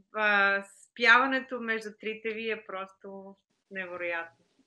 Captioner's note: foreign Language Spoken